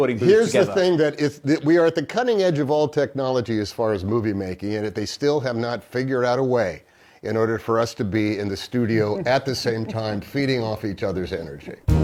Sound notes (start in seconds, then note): 8.8 laughs